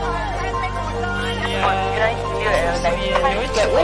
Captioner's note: indistinct conversations; street noise; cars honking; background voice